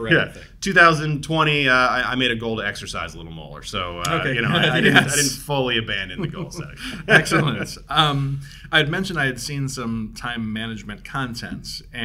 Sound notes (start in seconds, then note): 4.2 both laughing